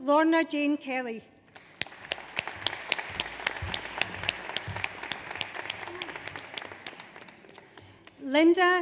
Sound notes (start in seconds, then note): 1.5 audience applauds